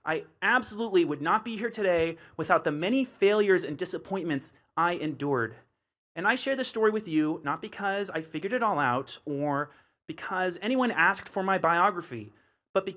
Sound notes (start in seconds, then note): none